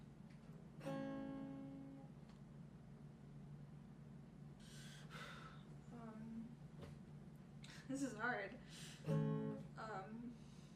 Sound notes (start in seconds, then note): 5.0 sighs